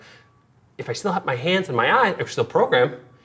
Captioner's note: none